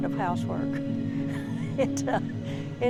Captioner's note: laughter